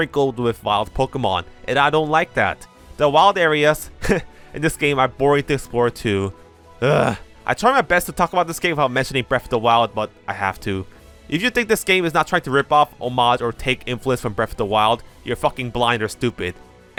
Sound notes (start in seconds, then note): 3.9 heh